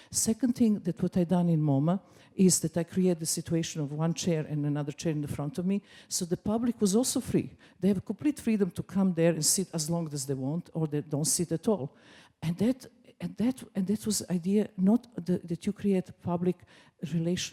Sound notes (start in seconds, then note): none